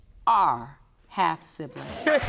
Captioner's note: audience cheering